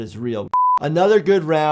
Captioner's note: screen beeping